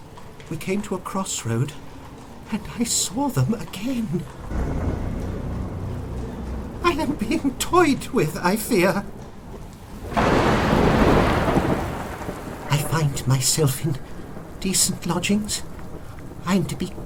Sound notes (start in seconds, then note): 4.4 thunder; 9.7 thunder clap